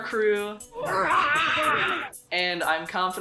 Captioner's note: roar